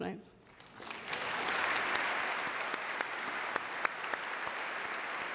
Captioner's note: audience applauding